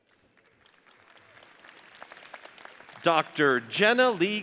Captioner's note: audience applauds